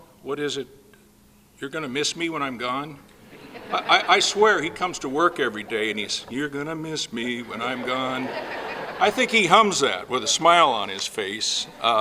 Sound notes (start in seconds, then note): 7.0 laughing